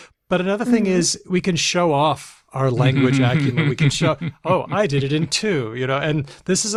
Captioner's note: laughs